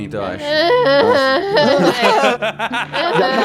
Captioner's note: Karela grunts; everyone laughs